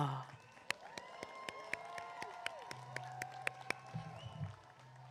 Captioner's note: applause